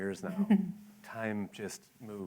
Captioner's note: laughter